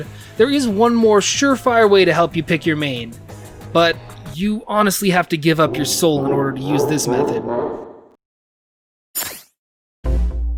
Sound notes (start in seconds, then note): 6.8 Super Mario 64 Bowser laugh